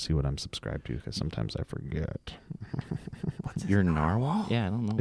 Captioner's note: sniggers